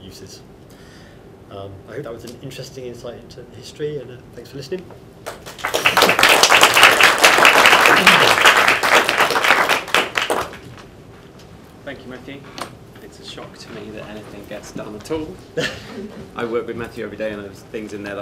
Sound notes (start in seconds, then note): 9.8 applause